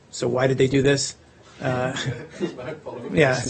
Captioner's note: laughter